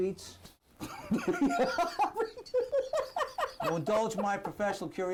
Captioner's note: Lt. Argento laughs